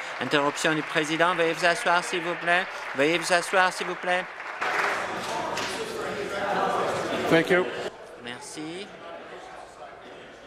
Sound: applause

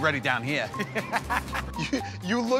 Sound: laughter

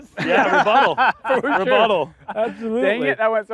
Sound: laughter

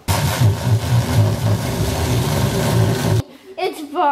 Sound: blender whirs

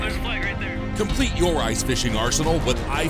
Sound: voiceover

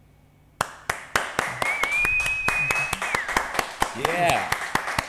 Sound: crowd applauding

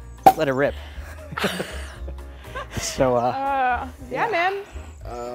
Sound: laugh

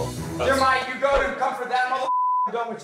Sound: beep

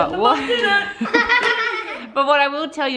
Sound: laughing

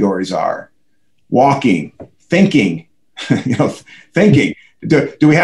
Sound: laughs

